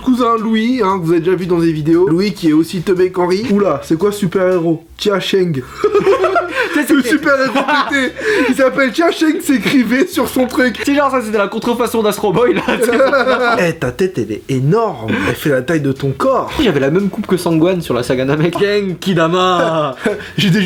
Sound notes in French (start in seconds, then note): 5.6 rire; 19.5 rire